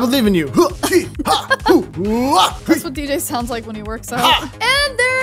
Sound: grunting

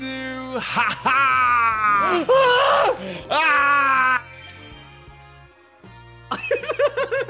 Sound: laugh

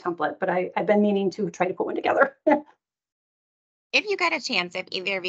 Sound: laughing

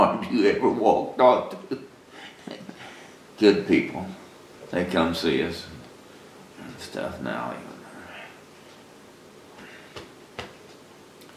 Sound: laughs

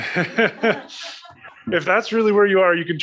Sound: laughing

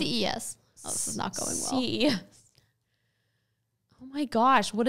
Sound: laughs

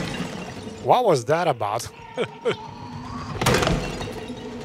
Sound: laughs

